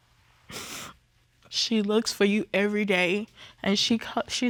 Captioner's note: sniffles